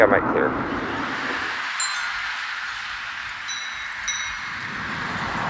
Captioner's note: wind chimes